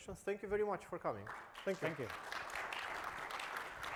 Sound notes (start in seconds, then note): 1.2 audience applauds